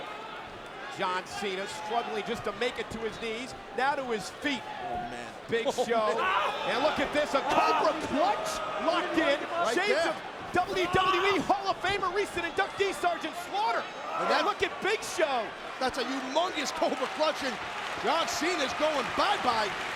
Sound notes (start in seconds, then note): 5.6 laughs; 6.2 John Cena shrieking